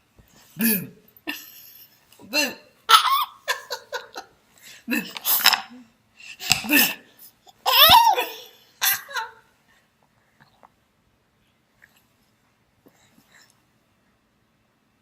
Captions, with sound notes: Boo! Boo! [BABY GIGGLING] Boo! Boo! Boo!